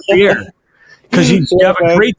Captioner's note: laughing